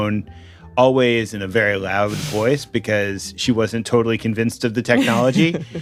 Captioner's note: laughs